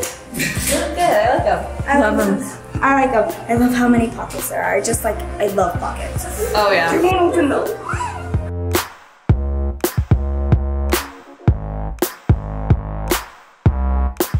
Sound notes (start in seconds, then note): 0.1 laughs; 9.3 upbeat electronic music continues; 9.3 whines